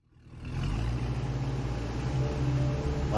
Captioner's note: boat engine